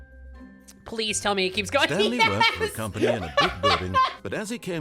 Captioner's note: laughing